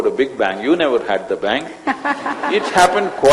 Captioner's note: laughter